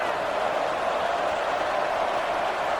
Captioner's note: crowd Noises